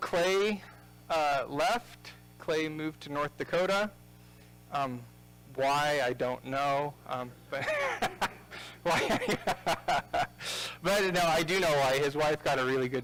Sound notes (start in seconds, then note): 7.1 laughing